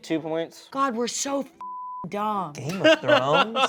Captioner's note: beep